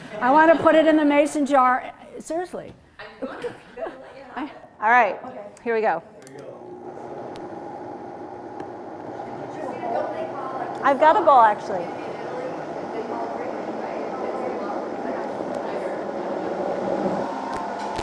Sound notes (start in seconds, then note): 7.5 blender grinding; 14.7 attendees chatting